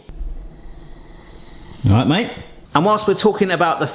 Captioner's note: wheezing